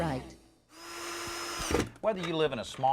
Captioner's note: electric drill whirring